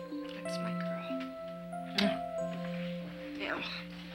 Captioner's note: lips smack